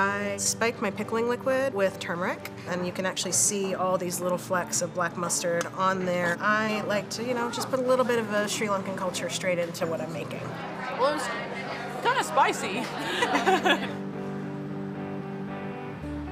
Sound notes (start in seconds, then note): 12.4 laughs; 12.5 calm music